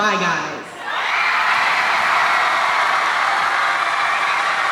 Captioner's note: audience cheering